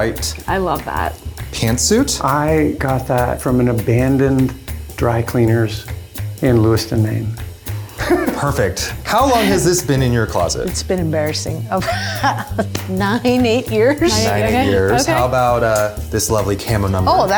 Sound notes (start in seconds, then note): 9.0 laughs